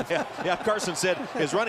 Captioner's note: laughter